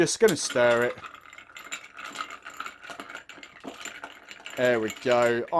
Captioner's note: glass clinking